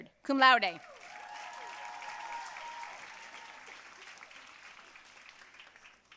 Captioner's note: audience cheering and applauding